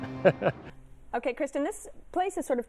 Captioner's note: laughs